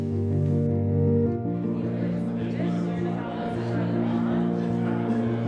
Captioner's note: people murmuring